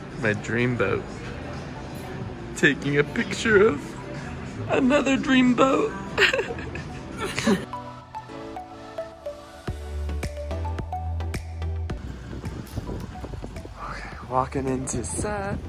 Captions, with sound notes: My dream boat. Taking a picture of another dream boat (laughs). (soft electronic music) Okay, walking into set.